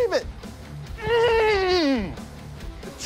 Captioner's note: grunts gleefully